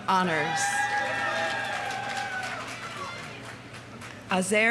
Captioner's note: audience cheering; audience applauding